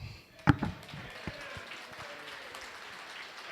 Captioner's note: applause